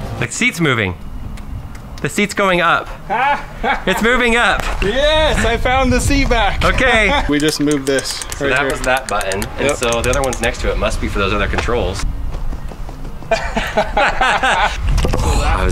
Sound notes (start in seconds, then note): 2.7 laughing; 13.2 laughing